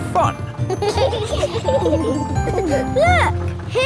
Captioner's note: kids giggling